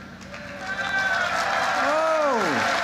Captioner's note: applause